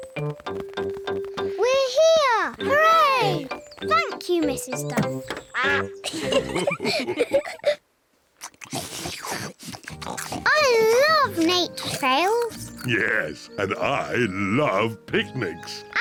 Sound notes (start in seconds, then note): 6.0 all laugh; 8.3 all munch